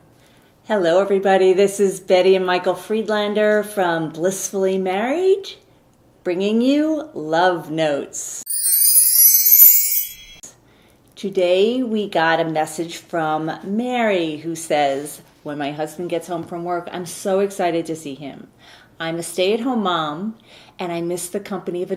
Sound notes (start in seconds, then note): 8.4 twinkling